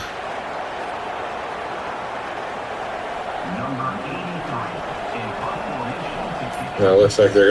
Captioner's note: crowd Noises